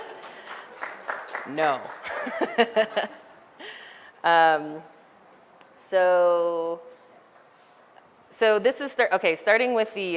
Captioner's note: background audience applause sounds; laughter